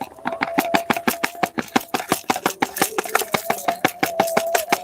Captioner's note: sound of Shaking Glass Shards